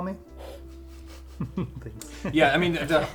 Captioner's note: laughs